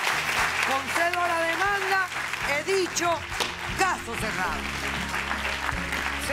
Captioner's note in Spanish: aplausos